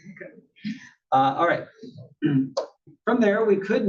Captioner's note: cough